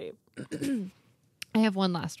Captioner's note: throat clearing